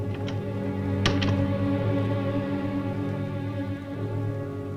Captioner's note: door closes